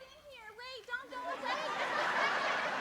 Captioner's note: laughter